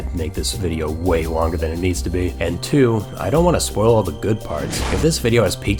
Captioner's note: Barney explodes